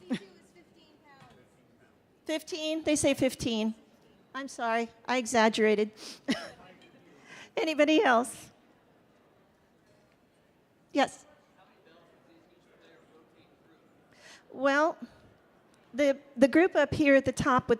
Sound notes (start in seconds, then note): 6.6 chuckling